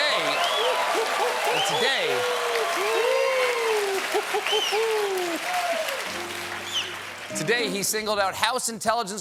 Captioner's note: audience reacts; cheers and applause